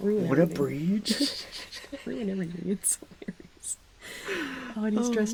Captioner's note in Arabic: يضحك